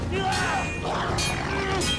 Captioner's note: intense, pulsing music; swords clanging; yelling